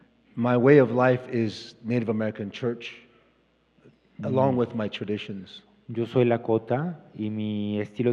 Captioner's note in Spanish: Expositor habla en inglés